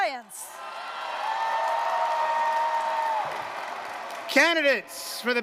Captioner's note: cheers